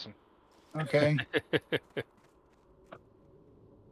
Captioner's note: laughter